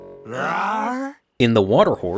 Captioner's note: men roaring